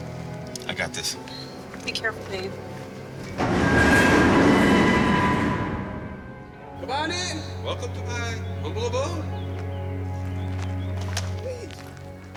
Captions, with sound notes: - I got this one. - Be careful, babe. (door squeaking) - Come on in, welcome to my humble abode.